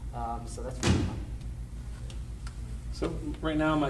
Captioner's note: banging drowns out speaker